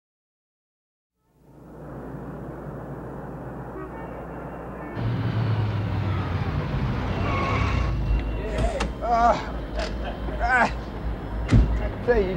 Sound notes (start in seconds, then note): 3.1 traffic and cars honking; 4.9 tires squealing; 8.4 laughing